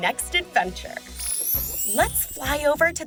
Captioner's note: chime